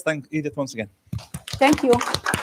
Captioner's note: applause